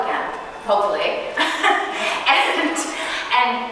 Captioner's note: chuckling